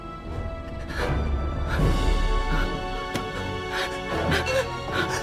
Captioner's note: Sarra breathing frantically